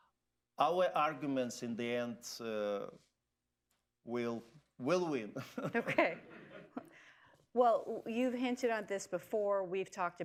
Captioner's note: laughter